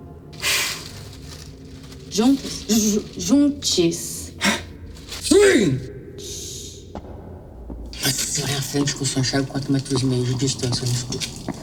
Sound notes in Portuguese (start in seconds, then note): 0.2 suspiro; 6.2 som de passos